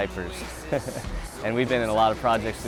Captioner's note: laughing